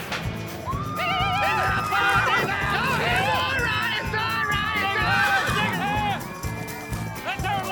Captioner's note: crowd shouting, cheering